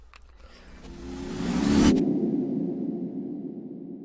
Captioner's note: whooshing sound